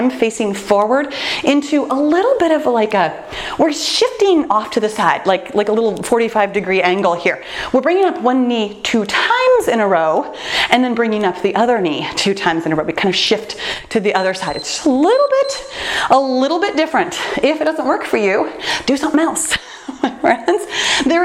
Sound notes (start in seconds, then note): 14.0 timer beeps